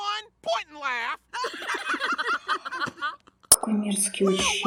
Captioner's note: класс смеется